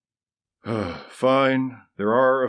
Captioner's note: sigh